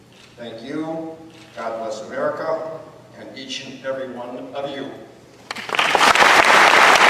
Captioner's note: applause